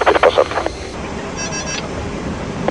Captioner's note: autopilot disconnect sound